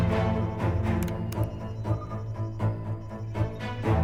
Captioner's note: beeping